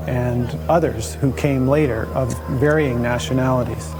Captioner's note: ship sounds, paddling